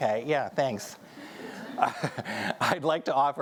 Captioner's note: audience chuckling